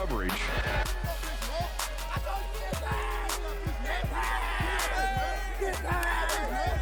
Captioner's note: overlapping chatter